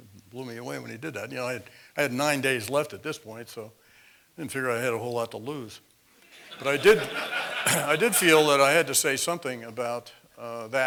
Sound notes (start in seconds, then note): 6.3 laugh